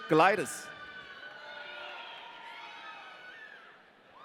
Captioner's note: audience cheering